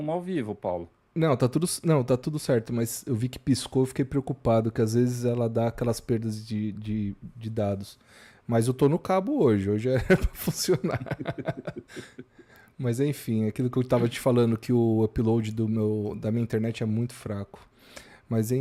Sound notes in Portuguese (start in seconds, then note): 9.9 risadas